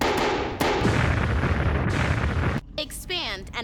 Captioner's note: booming